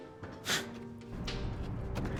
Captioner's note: chuckle